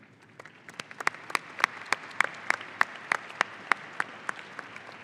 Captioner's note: audience applauding